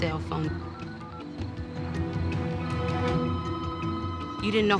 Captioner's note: telephone rings